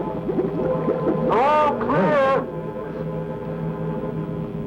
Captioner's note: bubbling